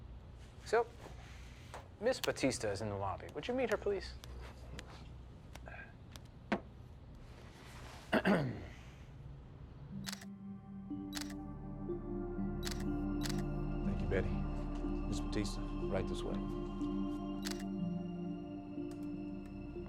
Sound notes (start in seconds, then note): 8.1 Tommy clears his throat; 9.5 camera shutter clicking; 9.5 relaxing music; 17.4 camera shutter